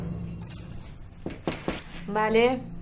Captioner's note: knock on the door